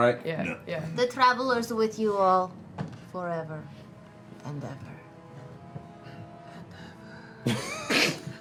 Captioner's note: low-pitched